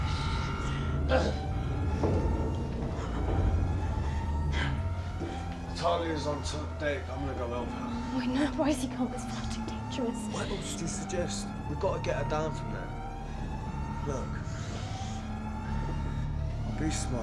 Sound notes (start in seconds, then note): none